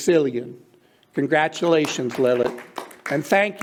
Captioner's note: clapping